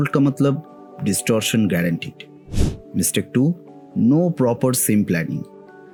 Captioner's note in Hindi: नाक से की जाने वाली आवाज़